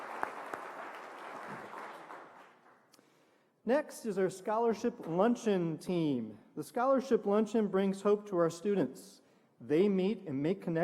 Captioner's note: applause